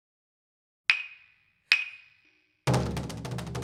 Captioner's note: wooden clappers chon chon